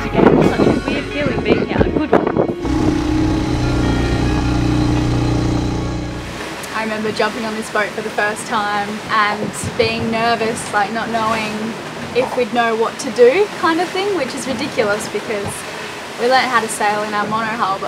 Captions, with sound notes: - Got this slightly weird feeling being here, a good one. (moped engine revs) I remember jumping on this boat for the first time and being nervous like not knowing if we'd know what to do kind of thing, which is ridiculous because we learned how to sail on our mono hull